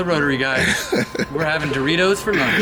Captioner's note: laughter